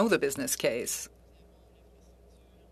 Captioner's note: speaking French